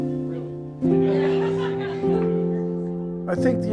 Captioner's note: people laughing